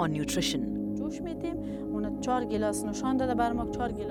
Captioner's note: speaking in foreign language